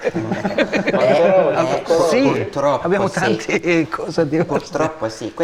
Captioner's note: laughter